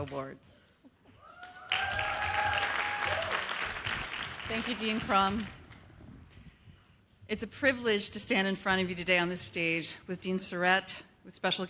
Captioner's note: cheers and applause